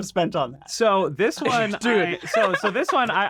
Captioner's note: laughs